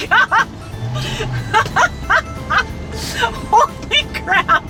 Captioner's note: laughs